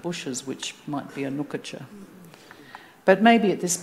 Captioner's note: speaking Anmatyerr